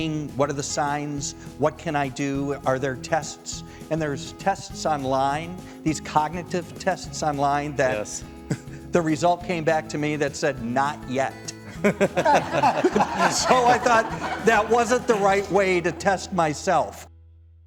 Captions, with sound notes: what are the signs, what can I do, are there tests? And there's tests online, these cognitive tests online, that the result came back to me that said not yet. (all laughing) So I thought that wasn't the right way to test myself.